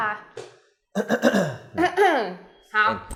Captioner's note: cough